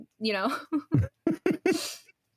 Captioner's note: laughing